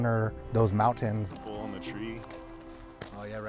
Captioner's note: farmers chatting